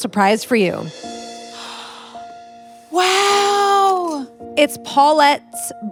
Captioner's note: inhales